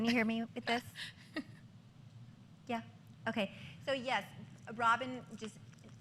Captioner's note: laughter